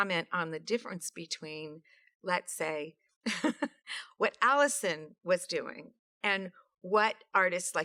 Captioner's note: laughs